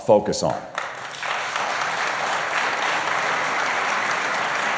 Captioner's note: applause